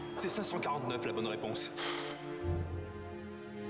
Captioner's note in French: ding!